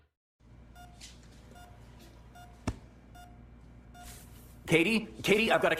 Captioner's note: heart monitor beeping